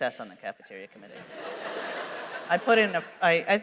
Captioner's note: laughter